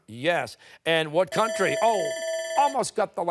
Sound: timer

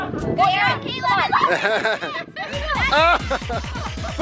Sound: male instructor laughing

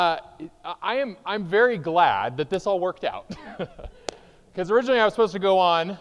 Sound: chuckles

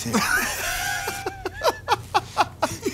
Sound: Joe and Q laugh

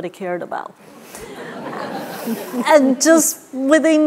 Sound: laughter

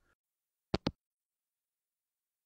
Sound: hangup

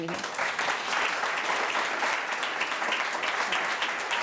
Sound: crowd cheering

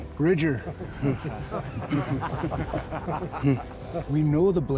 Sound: laugh

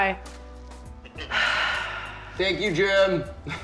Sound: sighing

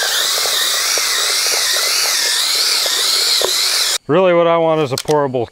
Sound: mixer swooshing

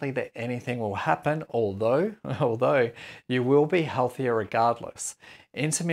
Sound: chuckles

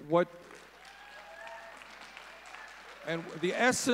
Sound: audience cheering

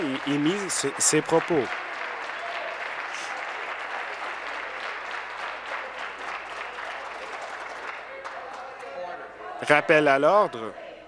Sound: voice trailing; applause

